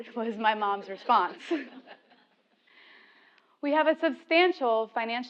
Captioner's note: laugh